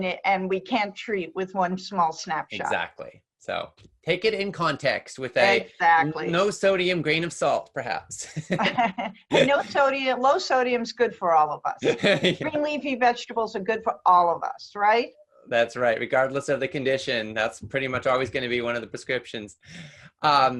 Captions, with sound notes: And we can't treat with one small snapshot. - Take it in context, with a no sodium grain of salt, perhaps. (both laugh) - Low sodium is good for all of us. Green leafy vegetables are good for all of us. - That's right, regardless of the condition, that's pretty much always gonna be one of the prescriptions.